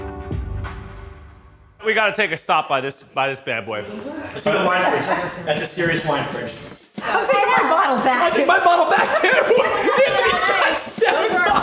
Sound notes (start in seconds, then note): 9.6 laughs; 11.1 laughs